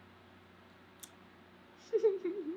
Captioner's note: sighs; laughs